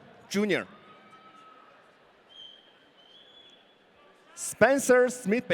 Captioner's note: audience cheering